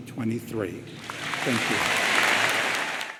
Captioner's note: audience applauds